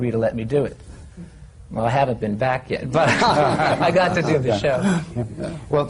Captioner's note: laughter